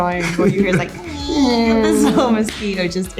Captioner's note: mosquito noise